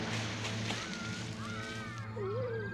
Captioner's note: dog whimpers